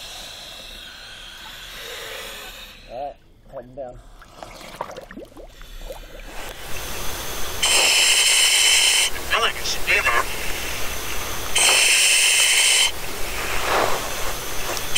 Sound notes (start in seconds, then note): 4.0 water bubbling; 12.1 loud breathing